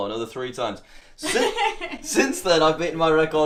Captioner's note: laughing in background